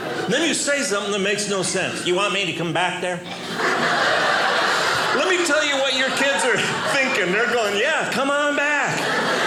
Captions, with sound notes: And then you say something that makes no sense. "You want me to come back there?" (audience laughing) Let me tell you what your kids are thinking. They're going, "Yeah, come on back.